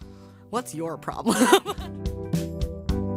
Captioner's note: laughs; light music